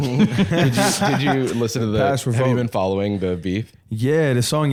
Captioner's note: laughs